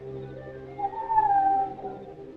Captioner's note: whistling call